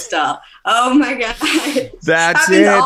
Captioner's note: laughing